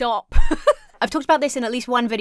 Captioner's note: laughs